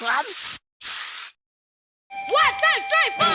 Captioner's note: spray painting